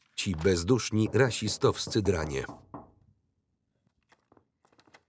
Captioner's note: door knocking